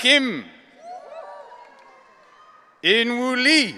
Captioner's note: audience cheering